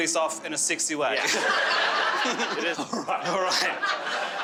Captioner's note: crowd laughing